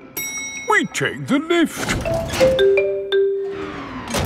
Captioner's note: elevator dings